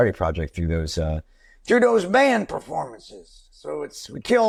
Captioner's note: Impersonating Springsteen